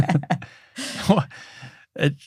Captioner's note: laughing